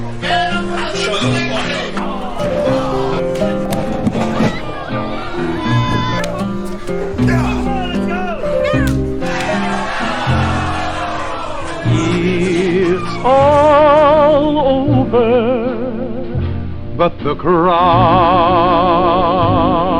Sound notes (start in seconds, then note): 1.8 piano music; 9.4 crowd groaning